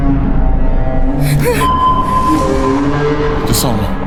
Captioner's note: sonar pinging